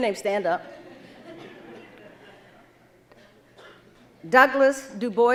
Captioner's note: audience laughing